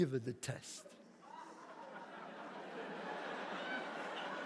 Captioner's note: audience laughs